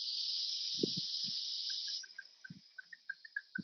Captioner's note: clicking